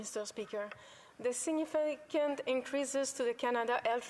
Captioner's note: speaking French